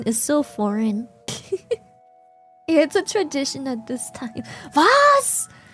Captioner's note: laughs